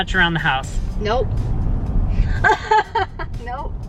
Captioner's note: laughing